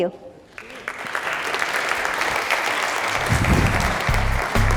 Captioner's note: applause